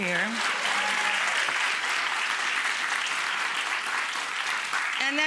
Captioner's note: audience applauds